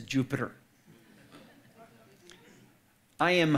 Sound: audience laughing

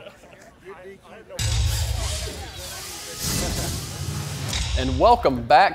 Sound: electronic transition sounds

